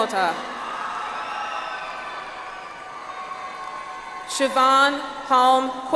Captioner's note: audience applauds